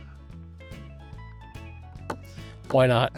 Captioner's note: knocking